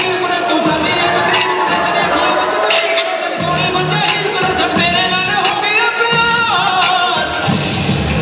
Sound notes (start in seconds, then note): 0.0 cheers